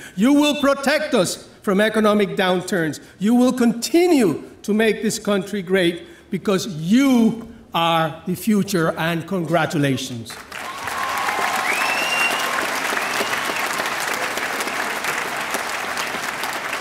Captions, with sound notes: You will protect us from economic downturns, you will continue to make this country great because you are the future and congratulations. (audience applauding)